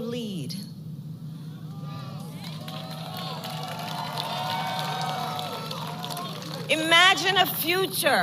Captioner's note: applause